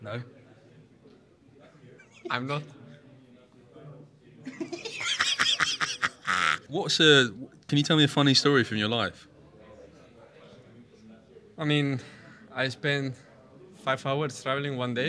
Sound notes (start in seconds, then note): 4.5 laughs